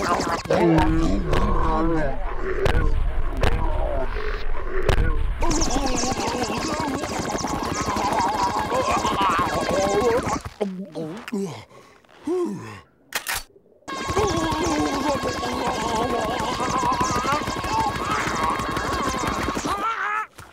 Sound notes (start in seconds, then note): 0.6 slow-motion groaning; 5.2 groaning; 11.0 sighs; 13.1 reloading sound; 13.7 SpongeBob shouting; 15.1 groaning